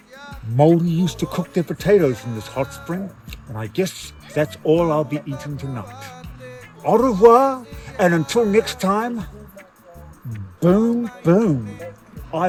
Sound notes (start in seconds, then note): 6.9 speaks in foreign language